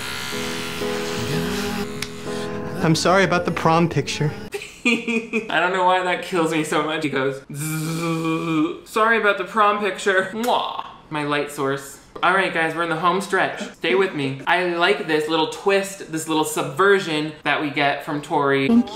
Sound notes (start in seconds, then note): 0.0 razor buzzing; 4.5 laughs; 7.6 mimics razor